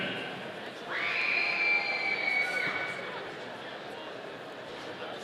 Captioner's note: audience cheering